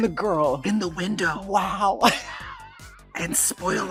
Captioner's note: laughs